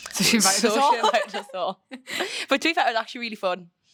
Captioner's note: both laughing